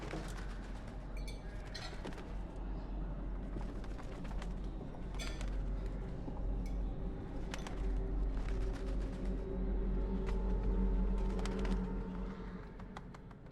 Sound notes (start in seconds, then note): 0.0 birds wings flutter; 8.3 birds wings flutter